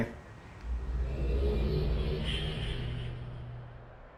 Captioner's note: linking sound